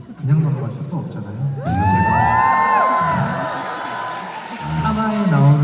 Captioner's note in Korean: 환호